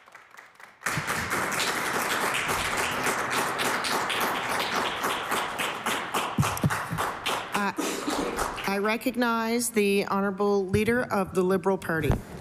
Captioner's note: applause